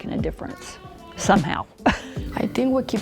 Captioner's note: laughs